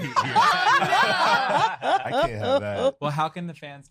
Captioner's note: laughter